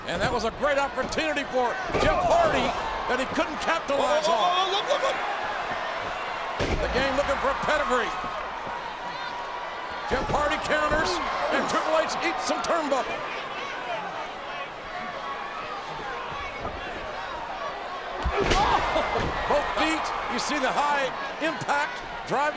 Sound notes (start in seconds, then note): 13.9 audience chattering; 18.8 chuckles